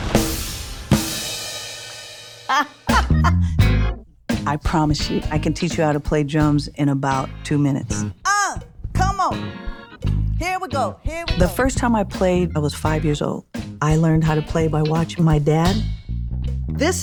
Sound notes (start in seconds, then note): 2.5 laughs